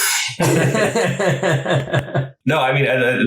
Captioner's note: laughs